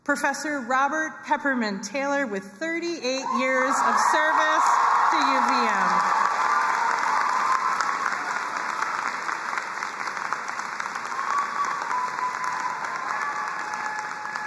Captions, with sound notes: Professor Robert Peppermint Taylor, with 38 years of service to UVM. (crowd cheering and applauding)